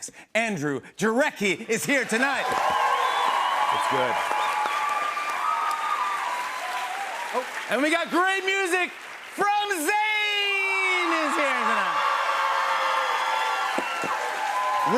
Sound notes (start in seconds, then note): 4.9 cheers and applause; 12.2 cheers and applause